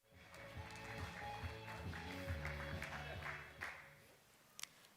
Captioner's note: applause